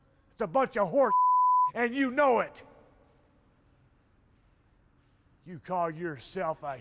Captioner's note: beep